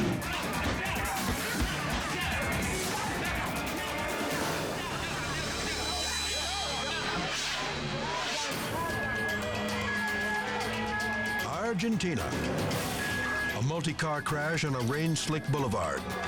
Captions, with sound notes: (dramatic music continues) (horns honking) Argentina. A multi-car crash on a rain slicked boulevard.